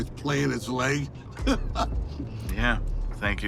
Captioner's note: Dwight laughs